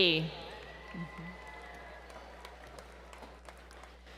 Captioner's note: applause